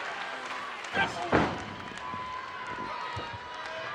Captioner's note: feet stomp